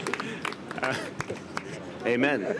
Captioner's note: laughter